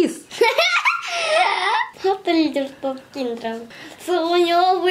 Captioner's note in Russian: смеется